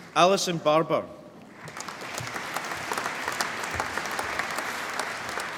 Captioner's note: applause